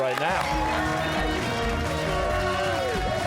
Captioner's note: cheers and applause